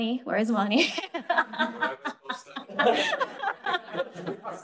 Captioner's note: group laughing